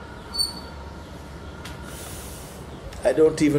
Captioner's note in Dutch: ademt hoorbaar uit